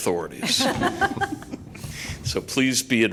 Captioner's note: laughter